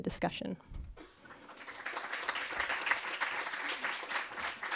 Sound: applause

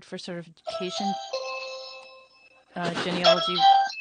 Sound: phone ringing

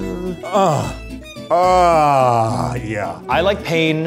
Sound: groaning

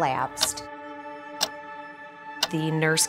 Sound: clock ticking

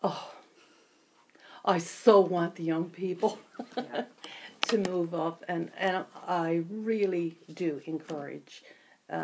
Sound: laughs

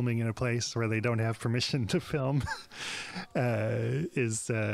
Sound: laughs

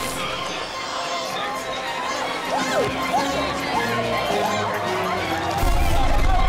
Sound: people screaming; dramatic music

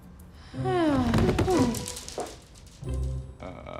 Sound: sighs

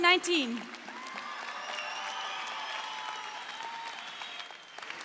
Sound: audience cheering

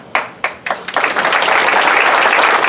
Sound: applause

